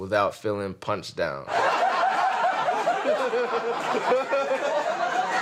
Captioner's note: crowd laughing